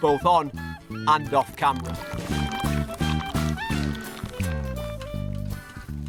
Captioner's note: cheerful jazz music; beer sloshing; beer fizzing